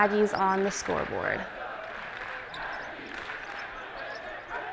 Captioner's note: chanting